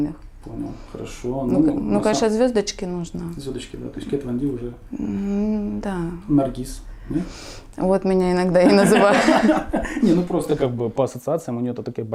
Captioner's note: laugh